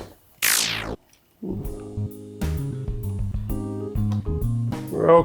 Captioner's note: plastic clacking; graphic buzzing; gentle jazz music